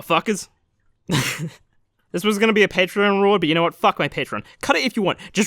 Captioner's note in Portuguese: riso